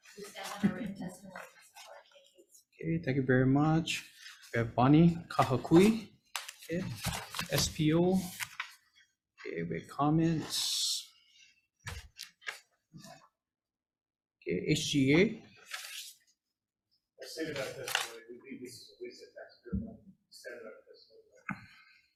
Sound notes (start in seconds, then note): 11.8 paper rustling